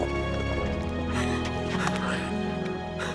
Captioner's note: sobs